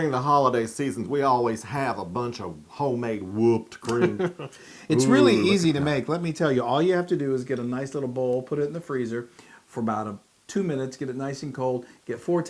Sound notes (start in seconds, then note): 3.8 laugh